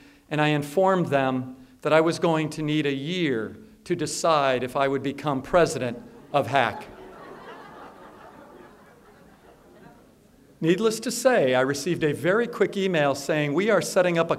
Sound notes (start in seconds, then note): 9.3 laughter